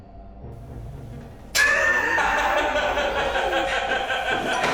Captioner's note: Mick laughing